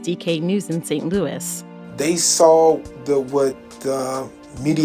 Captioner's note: soundbite of archived recording